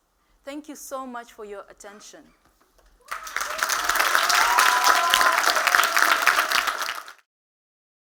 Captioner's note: applause